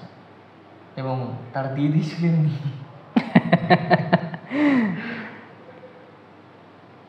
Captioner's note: laughs